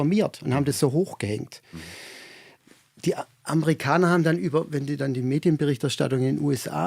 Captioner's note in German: japst